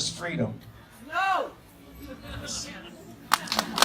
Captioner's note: person in audience, screams: NO!